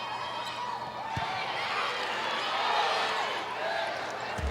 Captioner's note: players shouting indistinctly; ball thumping